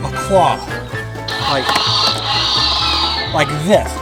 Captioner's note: claw screeches